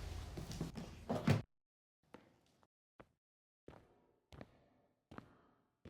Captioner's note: footsteps